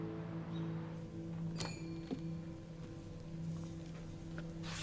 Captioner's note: bell tinkles